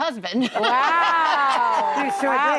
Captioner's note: laughing